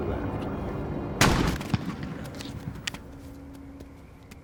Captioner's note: gunshot and splatter